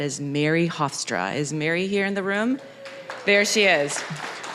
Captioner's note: applause